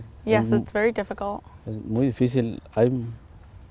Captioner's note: speaks in foreign language